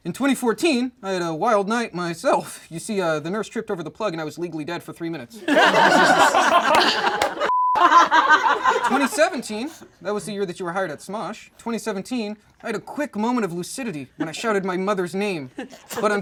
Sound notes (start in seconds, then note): 5.4 all laugh; 7.4 beep